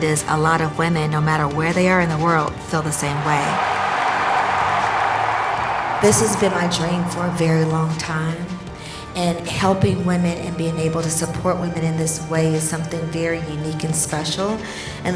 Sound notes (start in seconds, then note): 2.8 crowd cheering and clapping